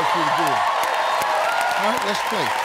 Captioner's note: cheering and applause